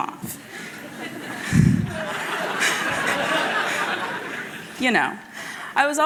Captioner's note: laughter